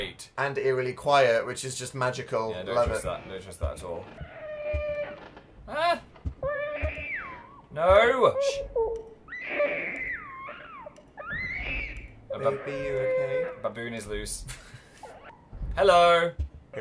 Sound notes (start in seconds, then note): 4.6 creak; 6.2 baby crying; 6.4 yelps; 8.9 baby crying